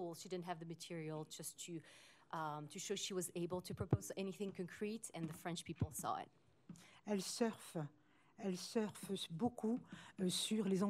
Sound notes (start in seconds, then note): 7.1 speaking french